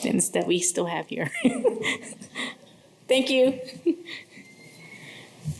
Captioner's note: laughter